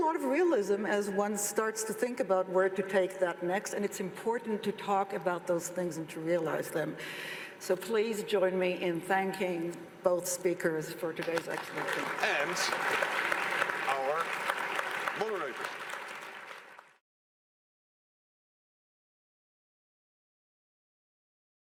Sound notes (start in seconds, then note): 11.2 Potlesk